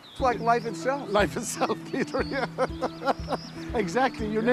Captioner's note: laughs